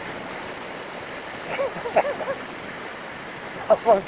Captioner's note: laughs